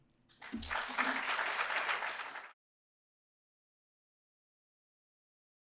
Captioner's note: applause